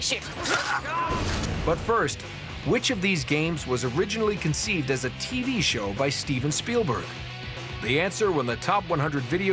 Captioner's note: slicing